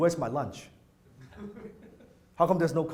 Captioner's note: audience laughs